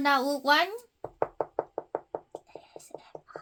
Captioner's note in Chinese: 叩叩叩